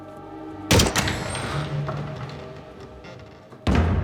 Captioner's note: door squeaks